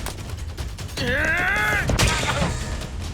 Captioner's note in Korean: 랄프 기합